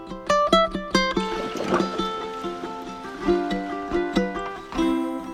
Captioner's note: water sloshing